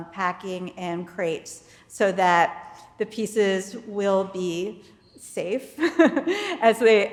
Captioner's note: laughs